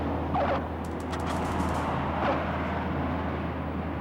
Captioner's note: tires screeching